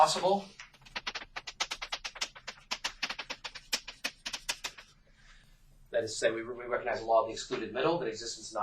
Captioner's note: writing on chalkboard sounds